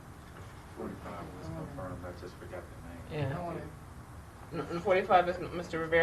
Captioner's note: quiet conversation